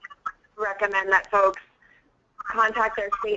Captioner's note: voiceover